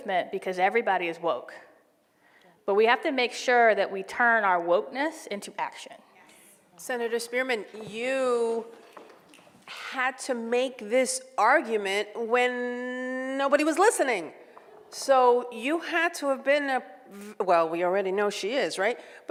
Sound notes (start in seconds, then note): none